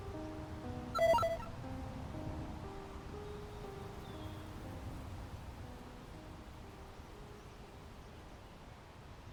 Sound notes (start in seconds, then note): 0.9 phone chimes